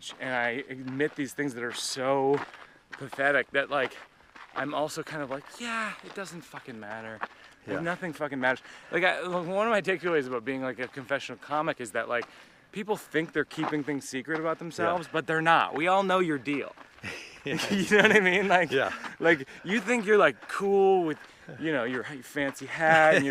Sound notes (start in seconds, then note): 17.0 laughs